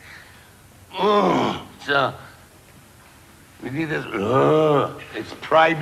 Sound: grunts

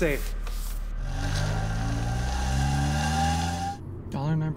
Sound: car pulling off

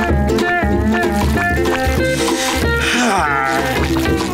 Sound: taking deep breath

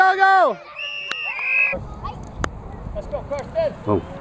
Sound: whistle blows

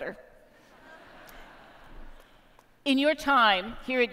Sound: laughter

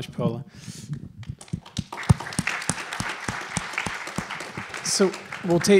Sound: applause

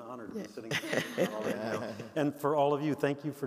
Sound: all laughing

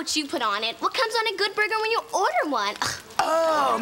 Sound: scoffing

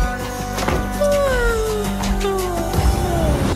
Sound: yawns

